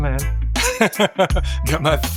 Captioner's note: laughs